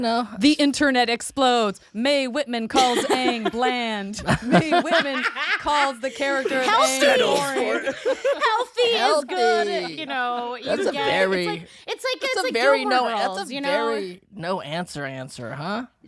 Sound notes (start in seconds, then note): 6.2 all laughing